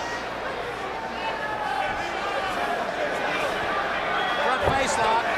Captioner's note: crowd chatter